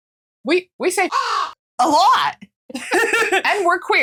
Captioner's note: caw